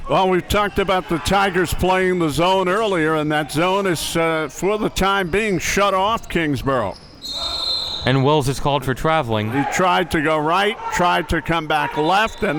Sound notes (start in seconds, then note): 7.0 whistle blowing